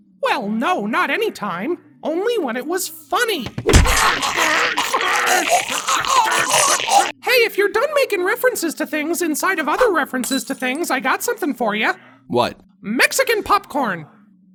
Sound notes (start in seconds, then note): 3.6 Goofball gagging; 3.6 Max groaning